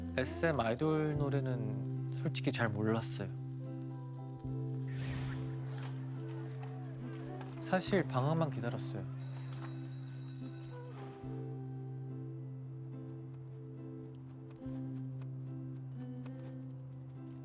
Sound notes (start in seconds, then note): 5.5 school children chattering; 9.4 school bell rings